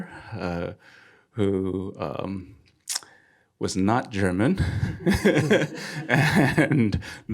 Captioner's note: laughing